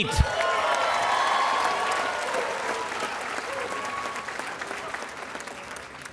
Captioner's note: audience cheering and applauding